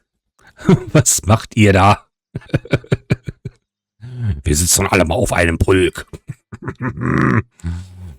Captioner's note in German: gelächter; schnauben